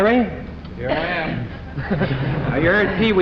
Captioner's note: laughter